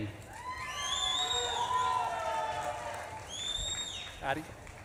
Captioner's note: audience claps and cheers